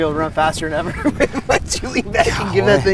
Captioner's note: laughing